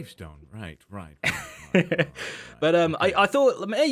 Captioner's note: laughs